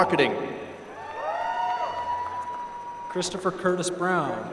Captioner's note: applause